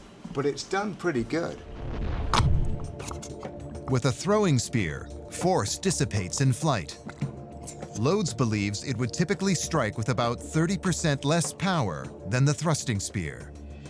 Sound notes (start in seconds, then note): 2.8 gelatin squelching